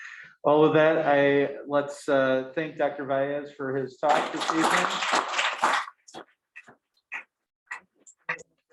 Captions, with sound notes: - All right then, let's thank Dr. Valles for his talk this evening. (all clapping)